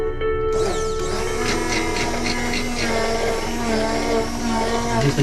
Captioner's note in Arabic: موسيقى هادئة; طنين الخلاط